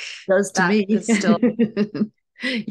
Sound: chuckles

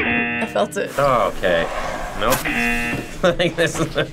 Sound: buzzer rings; buzzer rings; laughs

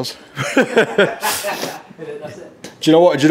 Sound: laughs

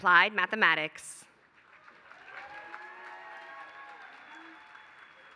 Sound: applause

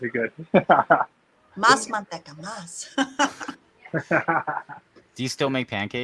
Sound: speaking in foreign language

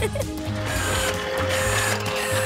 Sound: chuckling

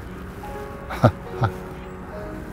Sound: laughs

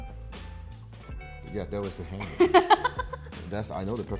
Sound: laughing

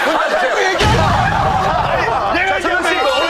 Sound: exploding

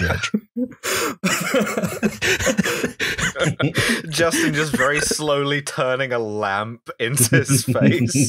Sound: huge laugh

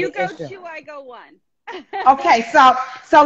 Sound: laughing

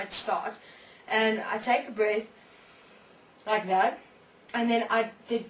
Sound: inhale

